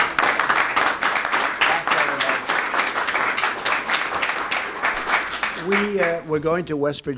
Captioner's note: applause